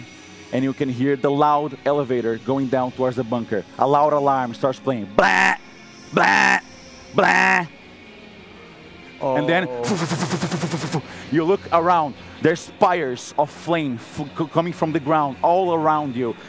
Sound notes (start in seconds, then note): 9.8 vush vush